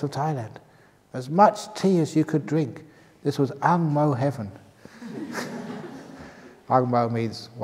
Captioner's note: laughs